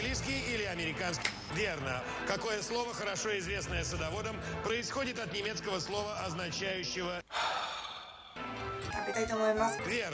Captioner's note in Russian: вздох